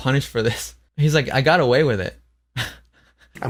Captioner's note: laughs